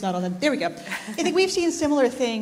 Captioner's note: laughs